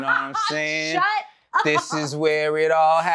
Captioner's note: laughter